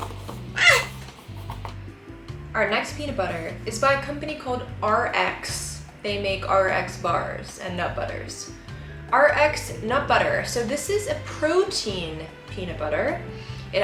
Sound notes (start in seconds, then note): 0.4 squeaks